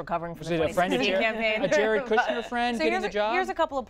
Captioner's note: laughter